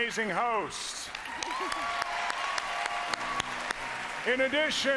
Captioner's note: applause